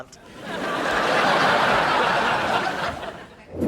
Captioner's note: laughs